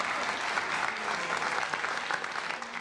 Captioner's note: crowd laughing and clapping